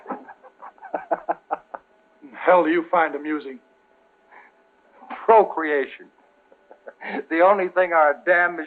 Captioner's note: laughter